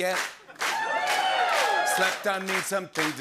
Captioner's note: cheers